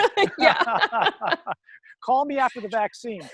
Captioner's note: both laughing